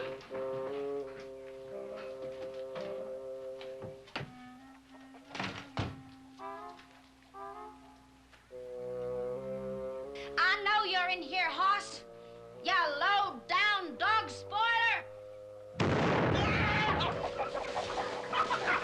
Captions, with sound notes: I KNOW YOU'RE IN HERE, HOSS. YOU LOW-DOWN DOG SPOILER. ( gunshot, screaming )